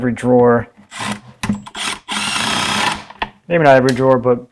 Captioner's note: tool whirring